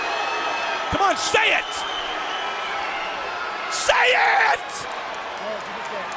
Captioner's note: crowd cheering